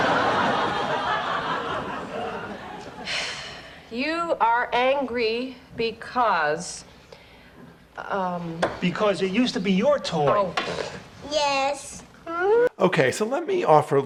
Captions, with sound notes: (audience laughs) - (sighs) You are angry because... - Because it used to be your toy. - Oh, (scoffs). - Yes. - Okay, so let me offer